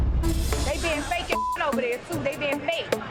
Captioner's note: beep